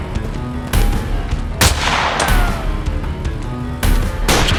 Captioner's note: gun fires; guns fires